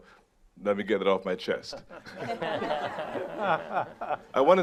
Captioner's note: audience laughing